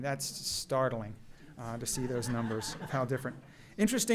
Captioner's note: laughter